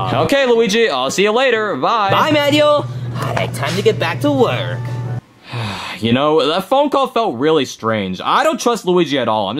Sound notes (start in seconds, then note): 5.4 sighs